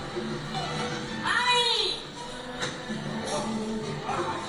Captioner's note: shouting in video